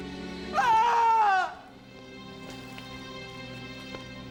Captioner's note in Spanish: gritando